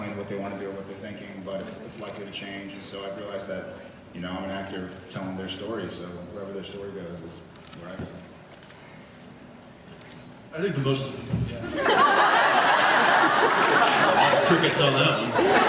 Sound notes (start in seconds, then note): 11.4 thunk; 11.8 laughs